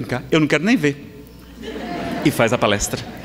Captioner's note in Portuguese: Risadas